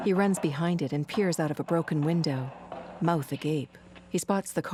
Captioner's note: clanking footsteps